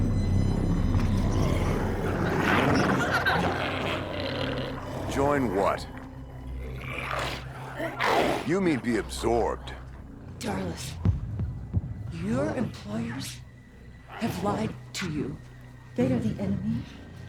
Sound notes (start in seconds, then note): 0.2 intense music; 7.2 glowzies growling